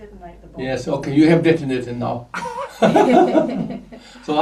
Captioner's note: laughs